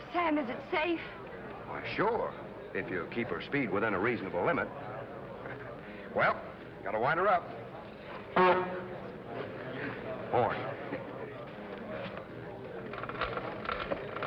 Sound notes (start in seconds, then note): 6.5 horn beeps